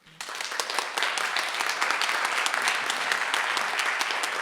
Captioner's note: audience clapping